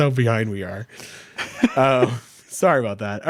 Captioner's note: laughing